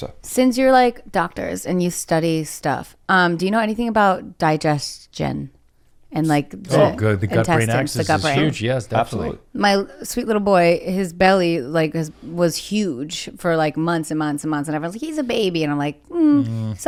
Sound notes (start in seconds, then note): none